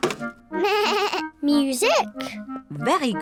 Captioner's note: bleats